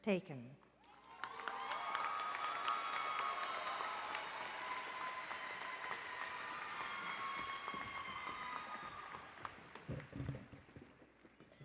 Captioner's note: applause and Cheering